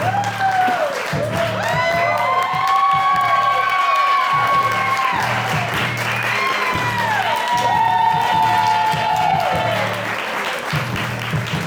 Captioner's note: cheering and applause